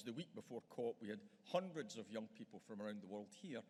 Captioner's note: none